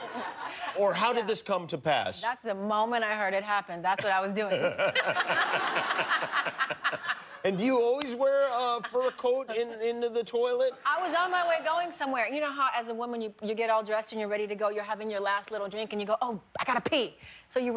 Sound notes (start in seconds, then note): 6.1 laughter